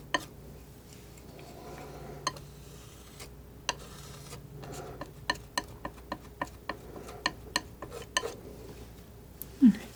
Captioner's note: tapping